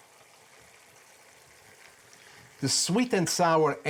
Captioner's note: food sizzles in pan